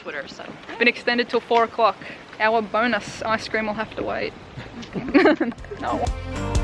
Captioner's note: laughs